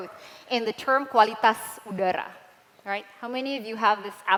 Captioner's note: non-english